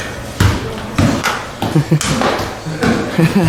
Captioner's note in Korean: 우당탕탕~